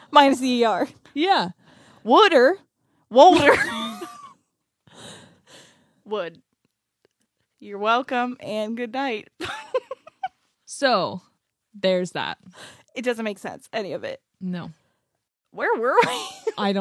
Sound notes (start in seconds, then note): 9.5 laughs